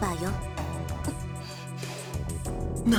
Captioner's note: gasp